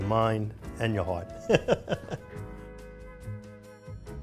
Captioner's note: laughs